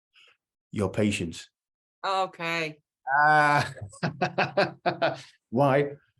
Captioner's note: laughter